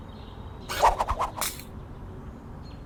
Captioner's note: boomerang flings